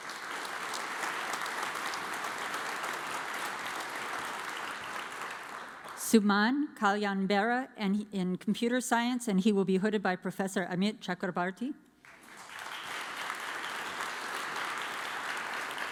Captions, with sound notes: (audience applauds) Suman Haliunbera in Computer Science, and he will be hooded by Professor Amit Chakrabarti. (audience applauds)